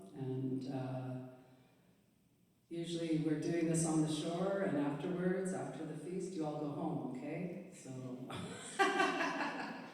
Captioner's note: laughter